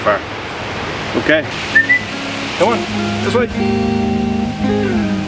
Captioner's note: whistle